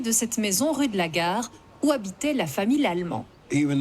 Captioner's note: speaking in French